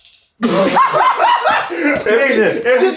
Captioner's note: laughs